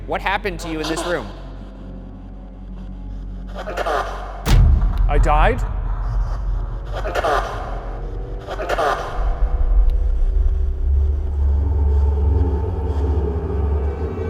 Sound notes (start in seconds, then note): 2.1 spirit box blaring; 2.1 voice shouts; 4.9 tense dramatic music; 7.3 voice shouting; 11.2 eerie music